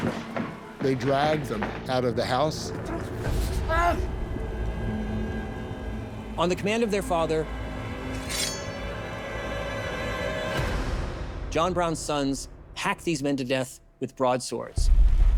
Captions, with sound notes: - They dragged them out of the house. [groans] - On the command of their father, John Brown's sons hack these men to death with broadswords.